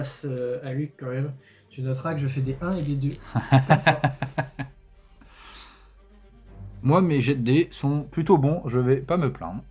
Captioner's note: laughs